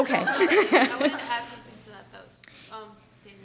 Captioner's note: laughs